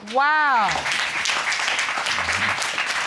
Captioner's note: applause